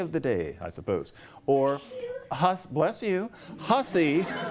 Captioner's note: sneezing